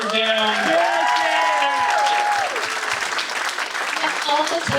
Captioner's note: audience applauding